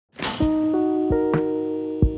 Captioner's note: clicking sound effect